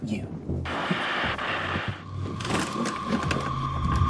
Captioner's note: static radio